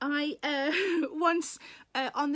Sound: Sarah laughs

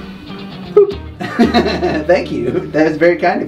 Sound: laughs

